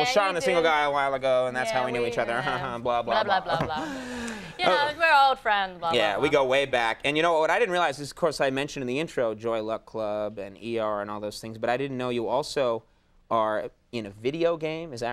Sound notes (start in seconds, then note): 3.7 Conan breath heavily